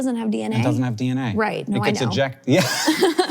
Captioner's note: both laughs; laughs